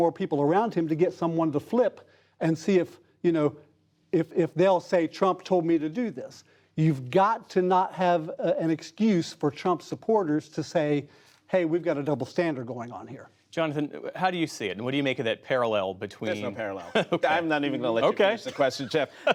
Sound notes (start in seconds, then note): 16.7 laughter